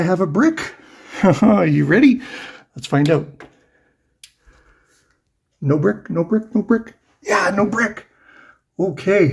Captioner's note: nervous laugh